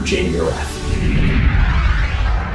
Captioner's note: screen whooshing